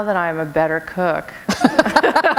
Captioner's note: laughter